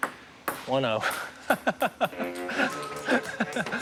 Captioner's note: laughs